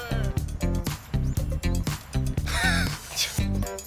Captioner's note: worried